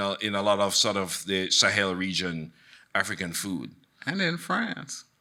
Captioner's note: none